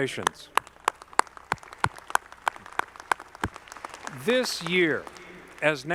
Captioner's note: audience clapping